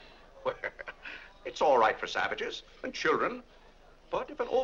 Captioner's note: laughs